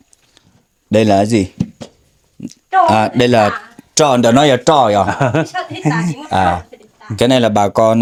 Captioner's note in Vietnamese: tiếng cười